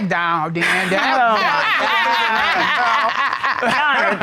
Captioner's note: laughing